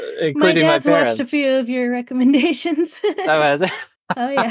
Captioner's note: laughs; laughs